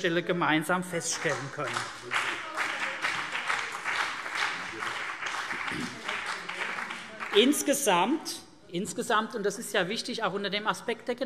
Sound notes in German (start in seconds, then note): 1.0 Beifall CDU und BÜNDNIS 90/DIE GRÜNEN